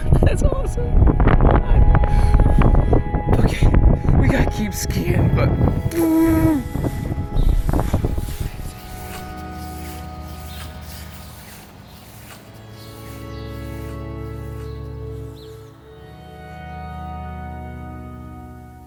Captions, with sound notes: That's awesome. [wind whipping] Okay, we gotta keep skiing, but. [skis whooshing] [gentle music]